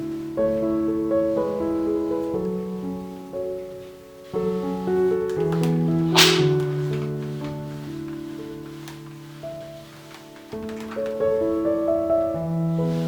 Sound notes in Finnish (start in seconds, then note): none